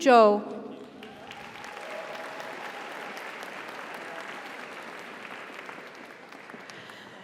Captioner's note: audience applauds; audience cheers